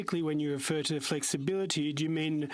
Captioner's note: speaking french